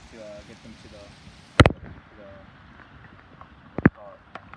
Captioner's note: rain drop contacts microphone